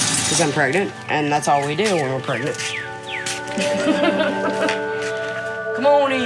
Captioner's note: laughing